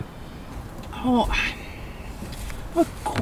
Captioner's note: sigh